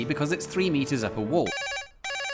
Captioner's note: ring ring